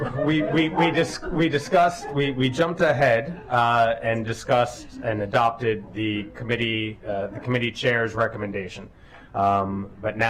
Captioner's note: laughter